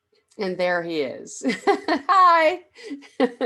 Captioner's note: laughs